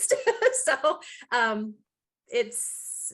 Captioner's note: chuckling